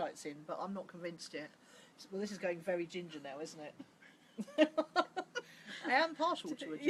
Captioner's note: laughs